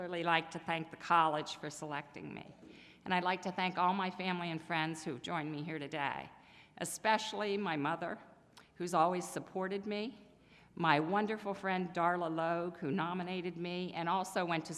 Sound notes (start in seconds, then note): none